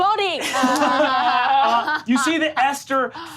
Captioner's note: all laugh